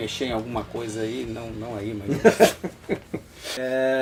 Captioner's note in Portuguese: Risos